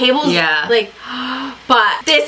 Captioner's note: gasps